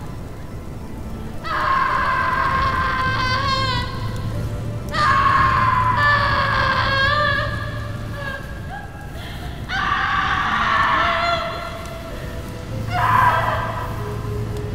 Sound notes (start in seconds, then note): 0.6 anxious music; 3.4 fire crackling